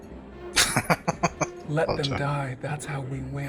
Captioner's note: laughing